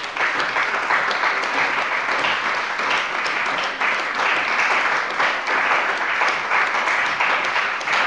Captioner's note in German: Beifall bei der CDU und dem BÜNDNIS 90/DIE GRÜNEN